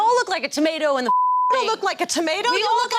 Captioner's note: beep